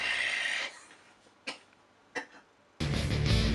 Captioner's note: coughs and gags